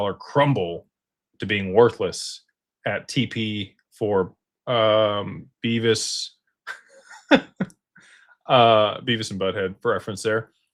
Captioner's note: laughter